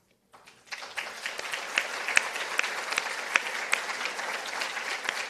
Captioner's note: participants applauding